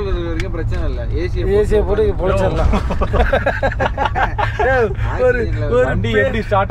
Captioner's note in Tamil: சிரிப்பு